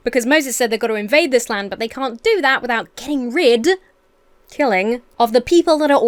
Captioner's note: none